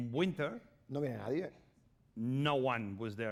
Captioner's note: speaking spanish